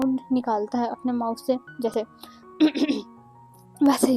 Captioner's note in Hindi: गला साफ़ करने की आवाज़